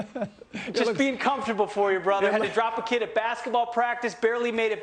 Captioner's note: laughter